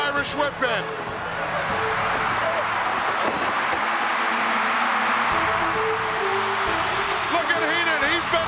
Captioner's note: applause